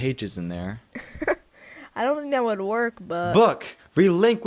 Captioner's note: laughs